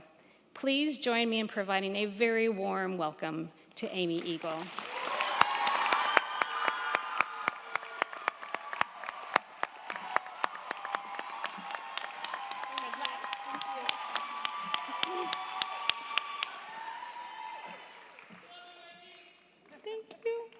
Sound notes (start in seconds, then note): 4.5 crowd cheering; 4.5 crowd clapping